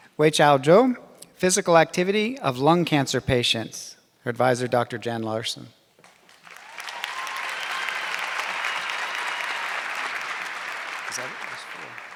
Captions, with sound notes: Wei Chao Jung, physical activity of lung cancer patients. Her advisor, Dr. Jan Larson. (audience clapping)